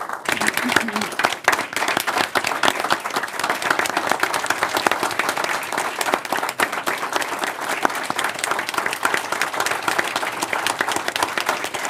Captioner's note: applause